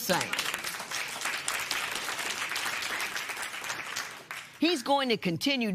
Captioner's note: applause